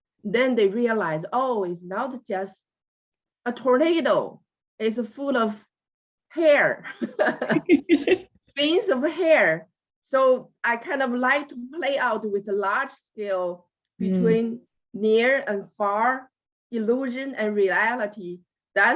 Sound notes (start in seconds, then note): 7.0 laughs